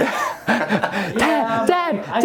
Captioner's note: laughing